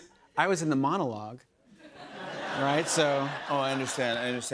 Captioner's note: laughter